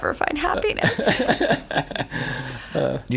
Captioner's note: laughter